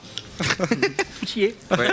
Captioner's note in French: rires